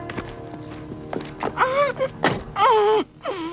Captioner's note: muffled moans